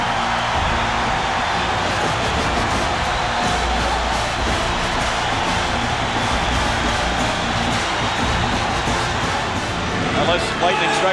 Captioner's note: cheers